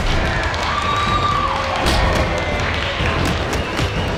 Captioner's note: clapping